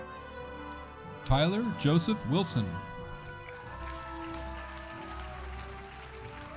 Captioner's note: audience cheering